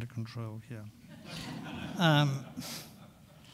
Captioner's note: audience laughing